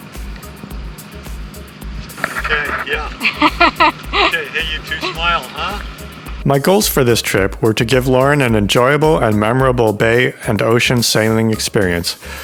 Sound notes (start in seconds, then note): 2.2 laughs